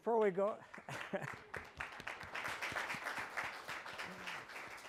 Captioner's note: applause